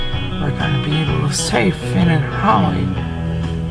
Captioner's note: sleep talking